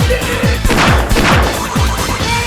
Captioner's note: more gunshots